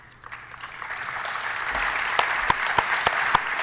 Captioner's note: applause